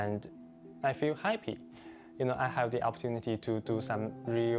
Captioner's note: speaking Chinese